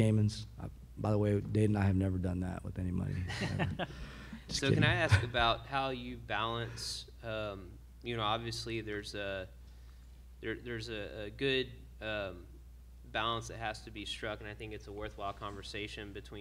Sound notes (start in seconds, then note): 3.2 a few laugh